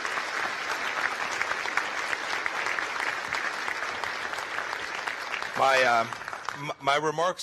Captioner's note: applause